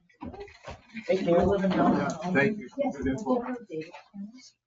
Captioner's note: members chattering